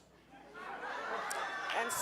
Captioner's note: audience cheering